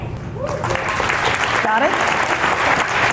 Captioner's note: applause